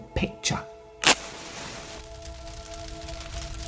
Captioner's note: match strikes